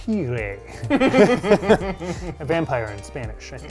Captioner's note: laughing